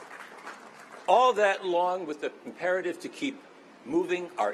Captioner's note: applause